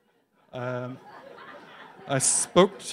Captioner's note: laughs